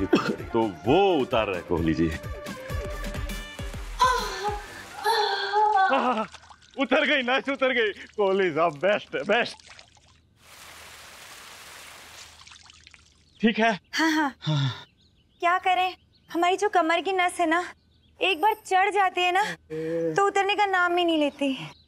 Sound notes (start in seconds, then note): 0.0 cough; 5.0 Pooja moaning; 14.0 sigh